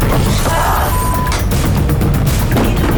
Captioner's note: groans; tense music